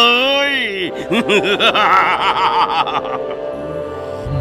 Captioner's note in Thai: หัวเราะ